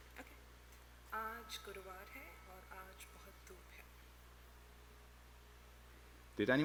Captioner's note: speaking hindi